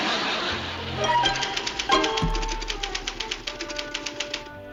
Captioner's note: typing vigorously